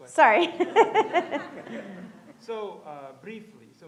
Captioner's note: audience laughs